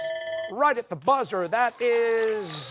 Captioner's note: timer sounding